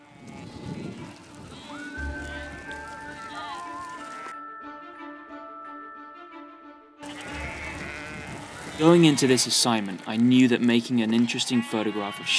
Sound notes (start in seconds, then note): 0.1 upbeat intense music; 0.2 sheep trotting; 7.0 sheep bleating